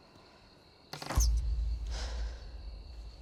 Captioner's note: creaking